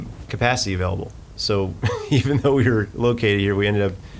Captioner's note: laughing